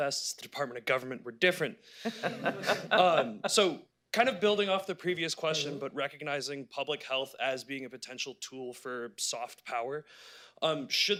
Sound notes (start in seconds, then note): 2.0 laughter